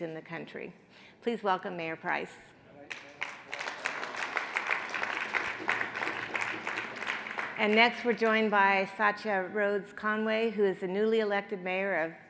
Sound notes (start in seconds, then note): 2.9 audience applauds